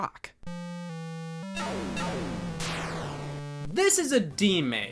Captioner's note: video game beeps